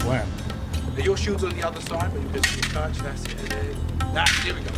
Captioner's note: swords clanking